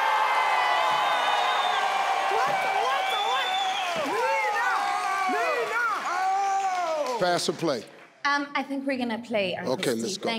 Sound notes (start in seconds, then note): 3.2 team cheering